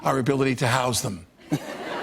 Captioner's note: laughter